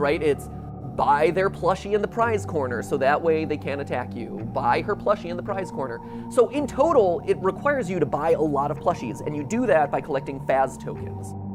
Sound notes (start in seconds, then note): none